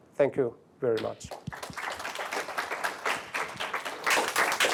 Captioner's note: applause